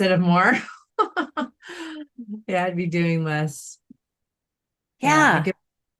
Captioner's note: chuckles